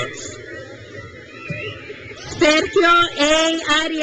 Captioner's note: crowd cheers